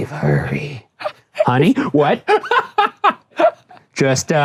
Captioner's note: Shane laughing